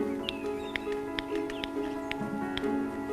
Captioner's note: clicking